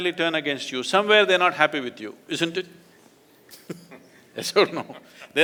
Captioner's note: laughs